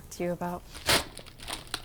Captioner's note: photo tear